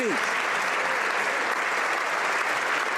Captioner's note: applause